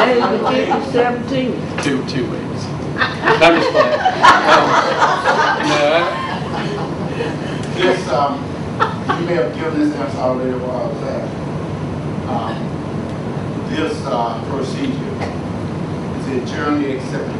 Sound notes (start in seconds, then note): 3.0 laughing; 3.0 audience laughs